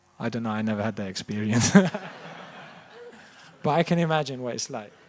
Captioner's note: laughter